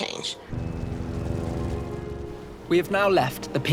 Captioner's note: helicopter whirring